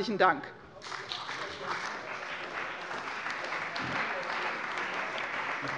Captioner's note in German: Beifall bei der CDU und dem BÜNDNIS 90/DIE GRÜNEN